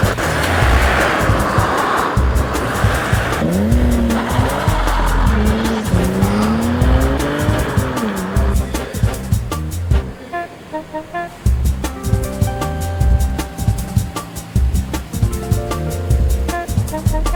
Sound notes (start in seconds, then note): 3.5 engine rumbling; 7.0 exciting beat music